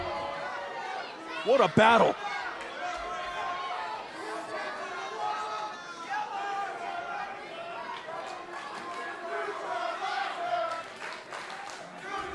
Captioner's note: crowd chatter